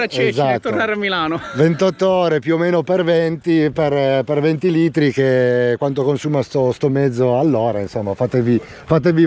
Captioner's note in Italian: risate